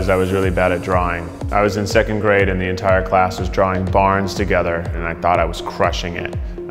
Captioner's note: none